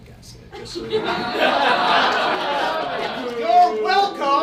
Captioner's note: audience groans